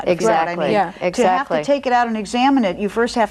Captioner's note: both speak softly